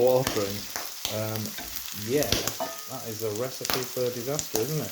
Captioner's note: pop; ding ding, Pop!